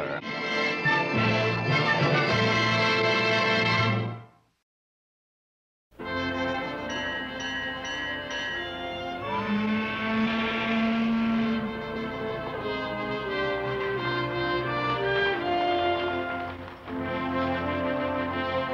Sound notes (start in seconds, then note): 6.1 bell clanging; 9.4 steam whistle blows